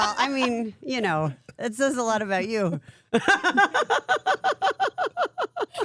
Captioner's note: laughs